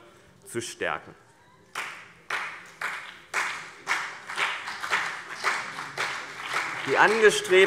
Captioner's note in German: Beifall BÜNDNIS 90/DIE GRÜNEN und vereinzelt CDU